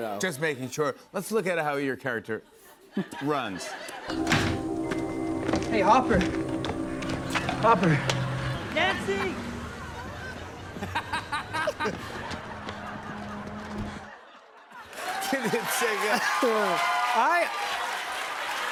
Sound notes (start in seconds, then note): 10.8 laughs; 14.9 cheers and applause